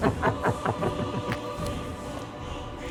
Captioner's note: evil laughing